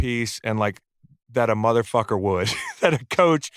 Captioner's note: laughs